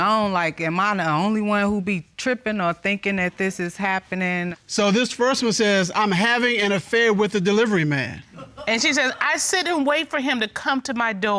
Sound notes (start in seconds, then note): 7.8 audience member laughs